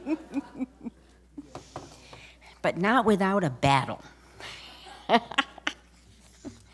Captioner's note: laughter; laughter